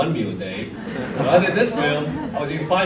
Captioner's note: audience laughs